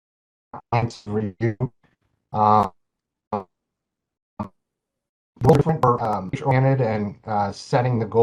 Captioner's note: tape Distortion